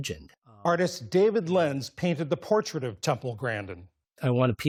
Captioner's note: voice-over